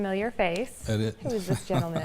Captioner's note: laughs